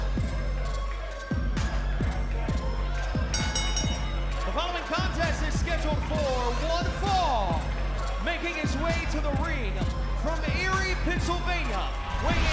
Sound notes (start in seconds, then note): 3.3 bell ringing